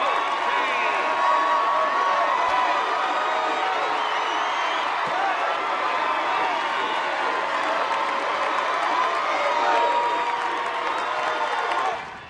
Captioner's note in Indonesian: bersorak